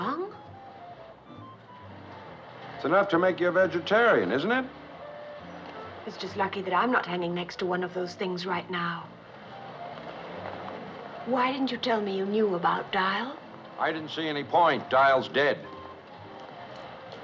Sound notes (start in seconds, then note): none